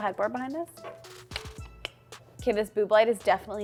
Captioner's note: tongue clicking